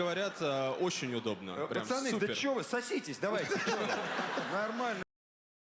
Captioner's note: laughter